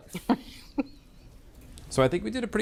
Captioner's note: Bridget laughs